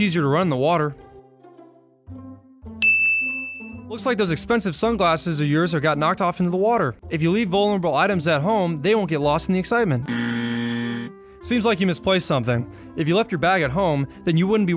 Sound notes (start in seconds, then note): 2.8 bell chimes; 10.0 buzzer dings